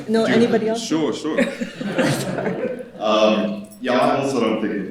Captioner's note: chuckles; all chuckling